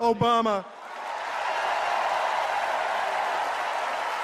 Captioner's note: cheers and applause